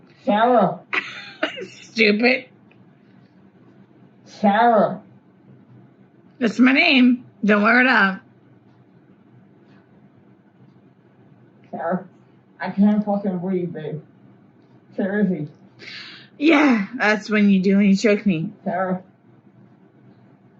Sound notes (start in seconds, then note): 1.0 laughs; 6.8 slurring